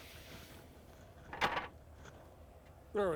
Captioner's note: light clatter